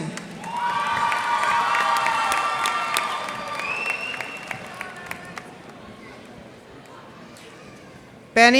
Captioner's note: cheers and applause